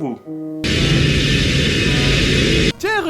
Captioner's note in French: Bruit de réacteur